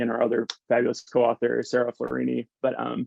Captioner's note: hands clapping